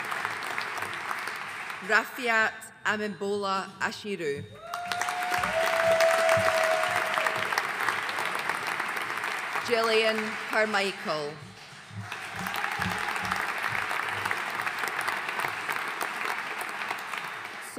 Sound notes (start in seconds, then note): 4.6 audience cheering and applauding; 12.4 audience applauding